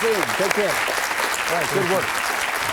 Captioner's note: audience applauding